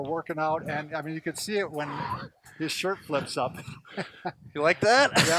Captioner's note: laughs